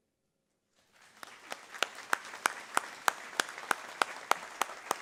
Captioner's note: audience applauding